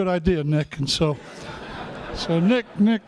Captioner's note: laughter